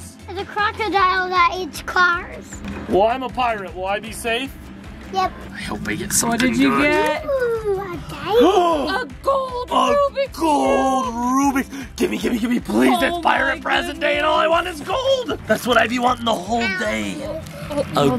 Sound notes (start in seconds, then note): 8.4 gasps